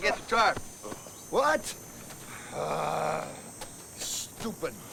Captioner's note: groans